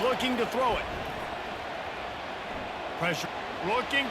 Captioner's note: cheering